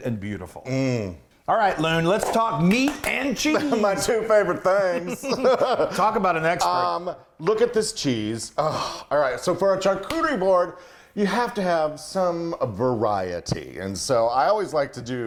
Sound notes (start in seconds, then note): 2.6 both clap excitedly; 5.0 both chuckle